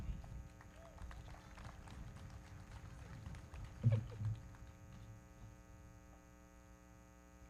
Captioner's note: everybody clapping; audience cheering